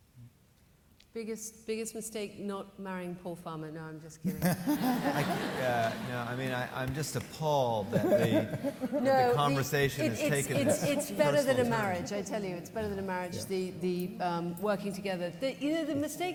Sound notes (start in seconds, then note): 4.3 laughs; 4.4 audience laughing